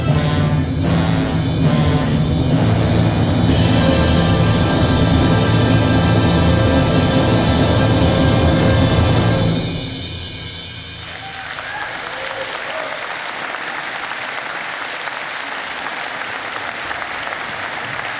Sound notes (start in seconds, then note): 3.0 intense music; 10.1 audience clapping